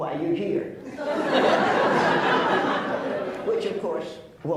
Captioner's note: laughs